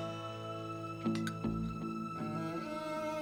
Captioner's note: spoon clacking